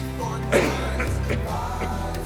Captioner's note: Florio coughs